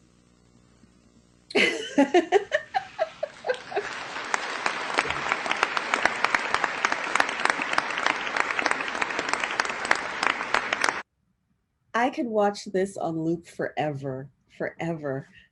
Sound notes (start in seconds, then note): 4.2 laughs; 5.7 applause